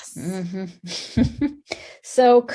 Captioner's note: laughs